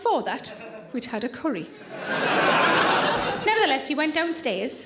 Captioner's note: audience laughing loudly